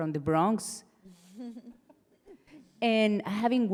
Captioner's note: panelists laughing